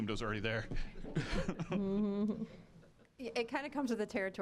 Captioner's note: scattered laughing